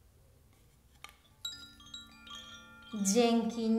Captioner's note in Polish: dżwięk dzwonków